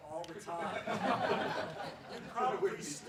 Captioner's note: laughs